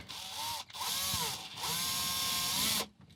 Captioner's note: drilling